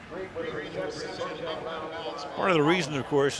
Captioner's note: pa announcement